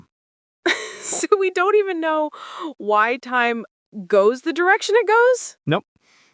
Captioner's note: laughing in disbelief